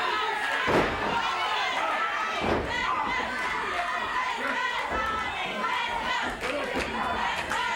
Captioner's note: crowd chants "Let's go, Tommy, let's go"